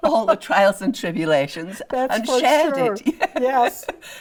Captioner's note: laughs